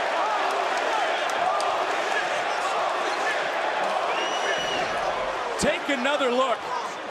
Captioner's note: crowd chants "holy --"